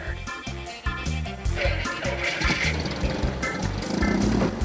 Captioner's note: plane engine whirs